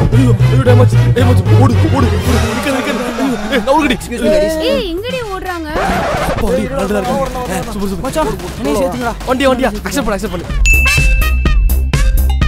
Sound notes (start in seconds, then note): 9.4 pubg sound